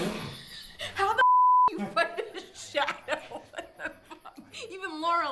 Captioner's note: laughing